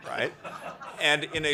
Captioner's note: laughter